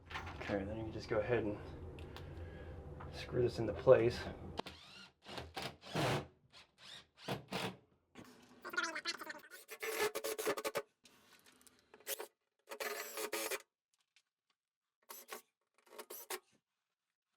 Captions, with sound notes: Okay, then you can just go ahead and screw this into place. (drill whirs)